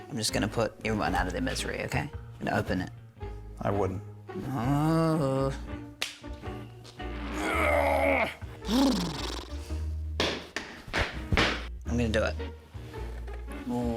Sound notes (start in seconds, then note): 4.5 groans; 7.2 grunts; 8.6 blubbers lips